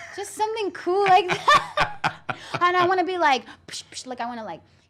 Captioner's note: laughs